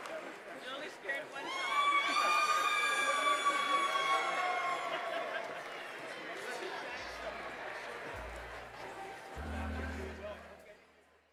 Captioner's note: cheers and applause